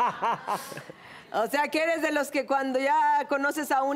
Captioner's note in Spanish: Risas